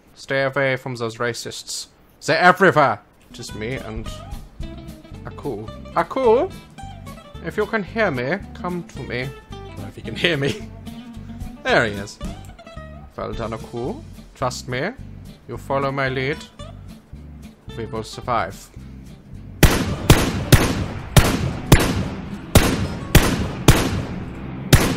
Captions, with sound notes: Stay avay from zose racists. Zey're everywhere! Just me and... Ackkoo. Ackkoo? If you can hear me, come to me. (normal voice) I don't know if he can hear me. There he is. (German accent) Vell done, Ackkoo. Trust me. You follow my lead. Ve vill survive. *gunfire*